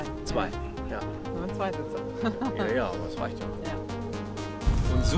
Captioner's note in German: lacht